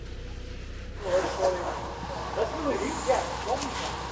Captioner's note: crew murmurs